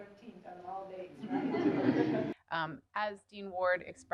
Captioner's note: laughter